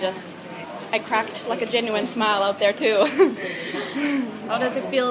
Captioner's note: laughs